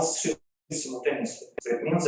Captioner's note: audio breaks